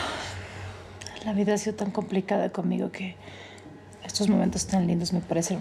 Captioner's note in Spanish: ella exhala